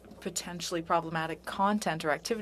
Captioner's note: speaking French